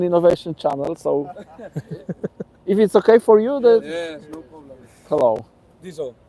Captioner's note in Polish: śmiech